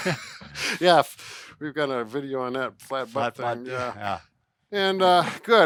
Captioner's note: laughs